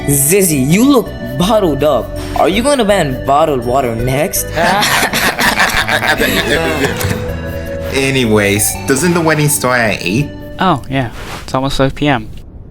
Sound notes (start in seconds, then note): 4.5 goofy laughter